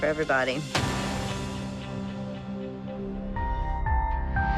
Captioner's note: thud